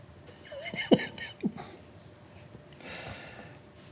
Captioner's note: laughing